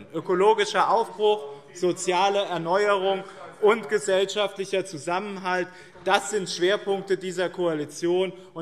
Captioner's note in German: none